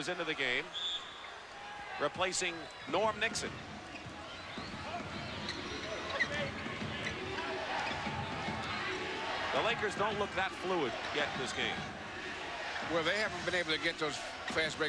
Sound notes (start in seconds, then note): 6.4 crowd chants "defense"